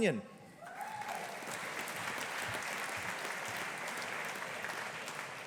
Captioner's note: audience applauding